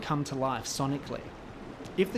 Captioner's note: ocean waves crashing